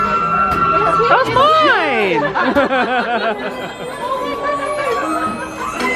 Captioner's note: people laughing